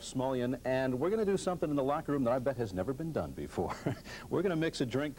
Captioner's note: chuckles